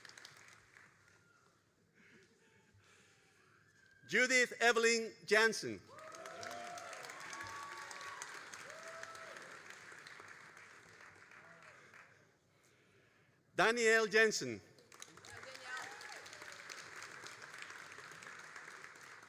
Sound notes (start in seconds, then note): 5.8 all applauding and cheering; 14.7 all applauding